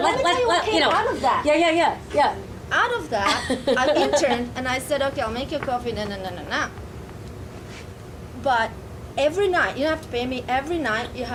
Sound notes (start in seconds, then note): 0.0 audience laughing; 3.2 laughing